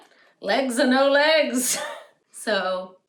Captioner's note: laughter